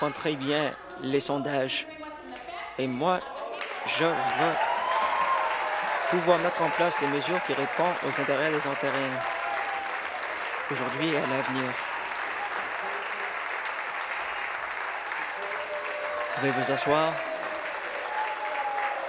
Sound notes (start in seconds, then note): 8.6 applause